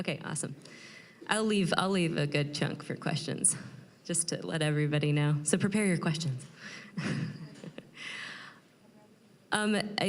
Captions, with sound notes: Okay, awesome. I'll leave a good chunk for questions. Just to let everybody know. So prepare your questions. (chuckling)